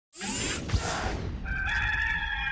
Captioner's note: logo whooshing; rooster crows